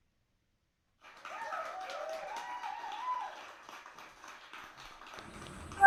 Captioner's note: applause and cheers